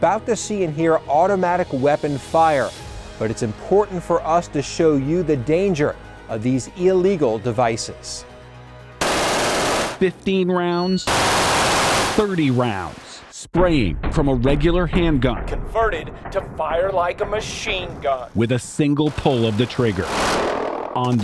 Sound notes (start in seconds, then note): 9.0 rapid gunfire